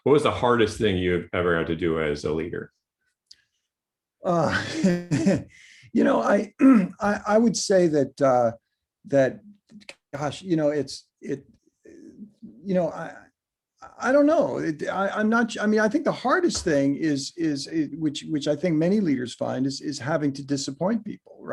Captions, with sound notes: What was the hardest thing you ever had to do as a leader? - (laughing) You know, I would say that ... gosh, you know it's ... I don't know! I'm not sure -- I think the hardest thing is, which I think many leaders find, is having to disappoint people.